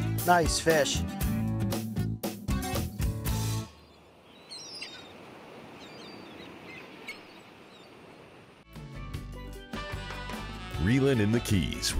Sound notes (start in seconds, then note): 2.0 upbeat music; 3.6 seagulls cawing; 10.5 upbeat music